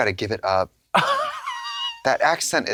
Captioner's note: Katya hoots